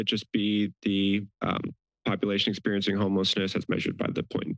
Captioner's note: background chatter